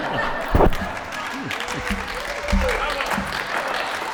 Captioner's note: applause